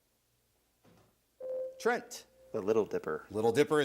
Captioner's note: buzzer rings